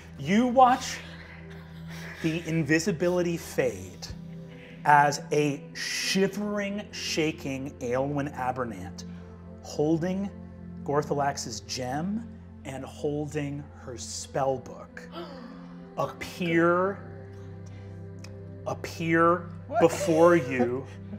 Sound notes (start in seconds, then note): 15.2 gasps